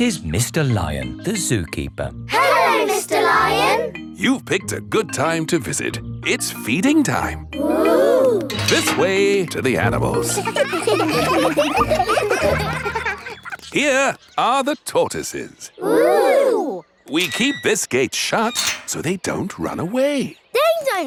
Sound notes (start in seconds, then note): 9.9 children laughing